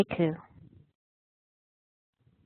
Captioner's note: Vietnamese